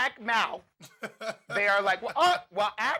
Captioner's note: laughing